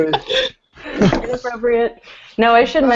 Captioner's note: laughter